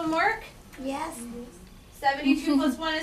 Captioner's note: voiceover